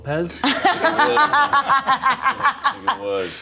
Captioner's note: laughs